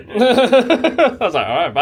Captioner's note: laughs